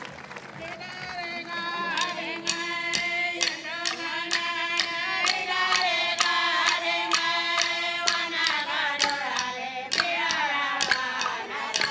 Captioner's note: applause